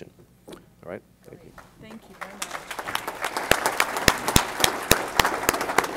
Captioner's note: applause